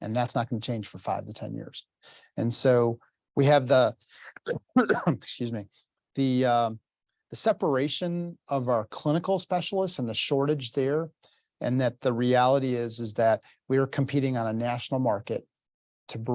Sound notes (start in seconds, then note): 4.3 coughs